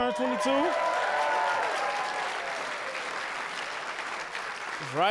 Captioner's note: audience cheering